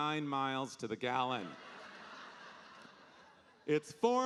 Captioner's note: audience laughing